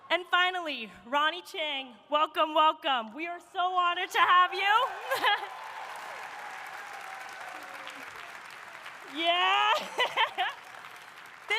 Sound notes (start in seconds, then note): 4.6 audience applauding; 5.0 chuckles; 5.7 audience cheering; 9.1 laughs